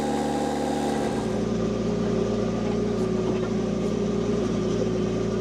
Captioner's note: engine humming